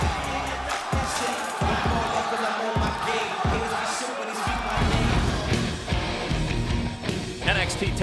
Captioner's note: crowd cheering